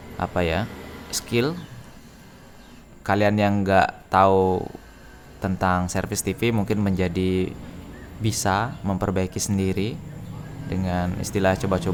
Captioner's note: chit chat